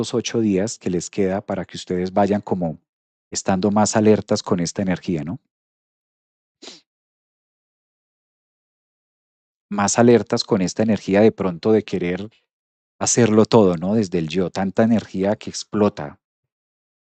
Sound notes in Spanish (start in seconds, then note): 6.6 resoplido